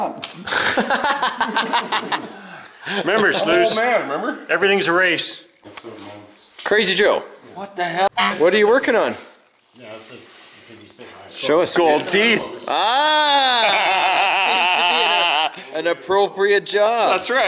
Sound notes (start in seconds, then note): 0.4 laughing; 8.0 horn honks; 9.5 speaking away from mic